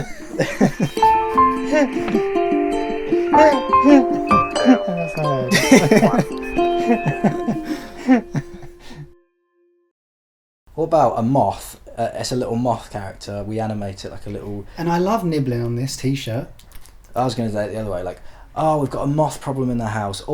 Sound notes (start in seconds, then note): 5.9 concluding chuckles; 16.5 nibble sounds